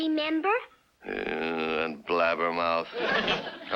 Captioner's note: groans